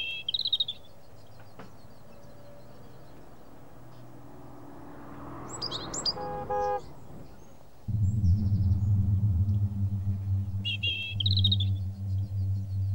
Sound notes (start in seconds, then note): 0.1 birds chirping; 6.1 horn honks; 10.2 birds chirping